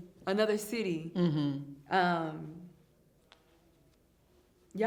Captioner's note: hums in agreement